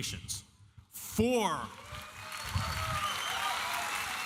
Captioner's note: applause